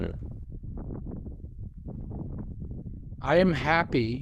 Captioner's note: sound of wind